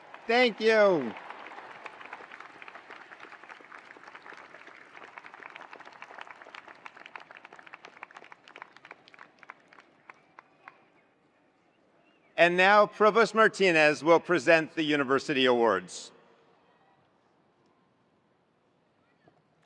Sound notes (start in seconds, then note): 1.4 attendees applauding